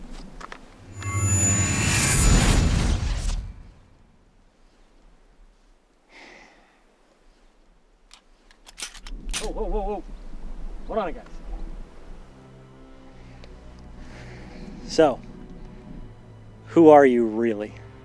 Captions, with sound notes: (sparkle chime) (Gun triggered) - Whoa, whoa whoa, hold on here guys. So, who are you really?